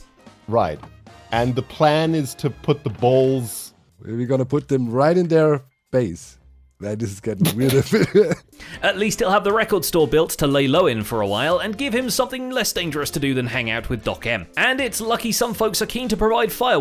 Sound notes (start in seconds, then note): 7.4 snickers